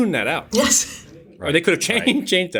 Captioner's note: laughs